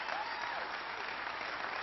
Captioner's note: applause